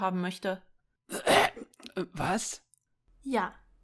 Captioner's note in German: Räusper